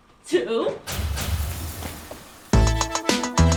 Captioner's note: explosions